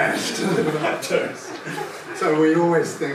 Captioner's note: laughter